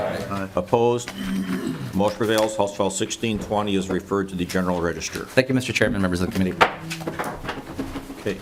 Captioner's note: chorus of ayes